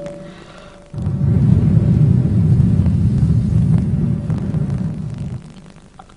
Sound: blows into the microphone

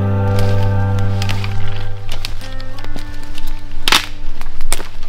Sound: branches snapping

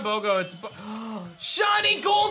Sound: gasps

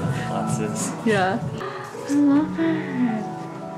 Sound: whispers

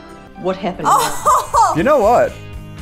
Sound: laughs

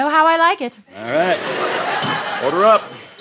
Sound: audience laughs

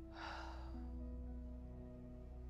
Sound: exhales

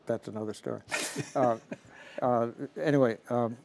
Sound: laughing

